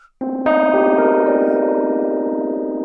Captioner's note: whistling